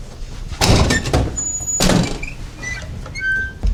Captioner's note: door banging; metal creaking